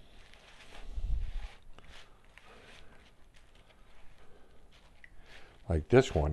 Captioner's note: silence